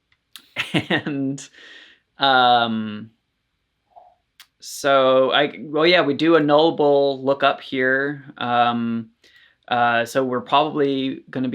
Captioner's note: laughs